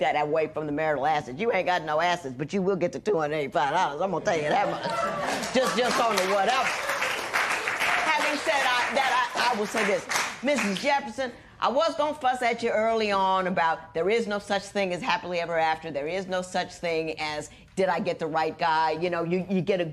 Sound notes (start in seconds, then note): 4.3 laughter